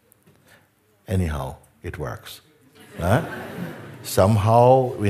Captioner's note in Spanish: risas